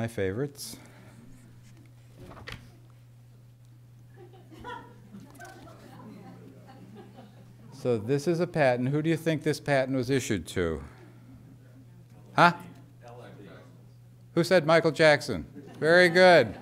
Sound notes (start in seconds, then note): 4.1 laughter